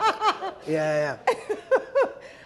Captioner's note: speaks in foreign language